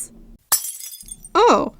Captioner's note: glass Breaking SFX